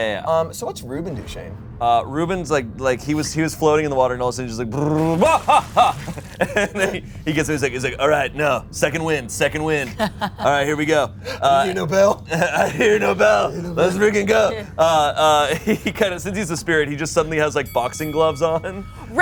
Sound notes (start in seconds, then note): 4.9 laughs; 9.9 laughs; 12.3 laughs; 15.3 laughs